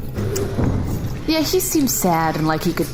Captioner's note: door opens